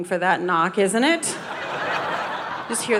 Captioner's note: audience laughing